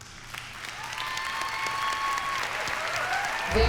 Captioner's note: applause, cheering